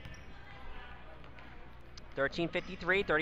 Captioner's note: crowd talking